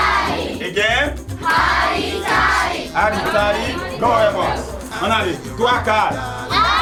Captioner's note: speaking in foreign language